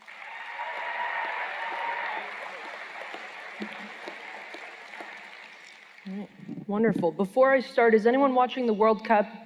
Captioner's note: cheers and Applause